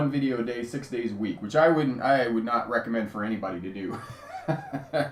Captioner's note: laughs